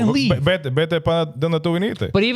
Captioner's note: speaking In Foreign Language